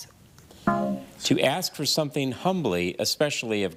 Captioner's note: buzzer buzzes